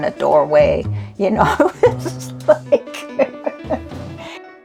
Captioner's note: laughs